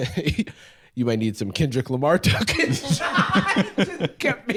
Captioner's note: laughs